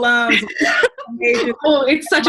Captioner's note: laughing